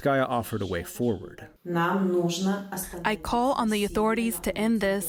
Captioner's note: through translator